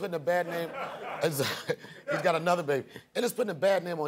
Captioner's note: chuckles